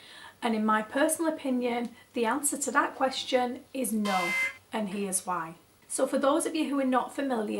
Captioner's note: warning siren